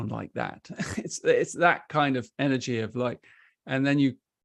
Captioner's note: chuckles